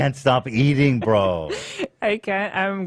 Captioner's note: laughs